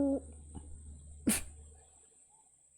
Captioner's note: chuckles